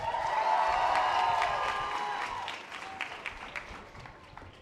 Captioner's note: audience applause